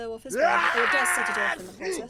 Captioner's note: “achoo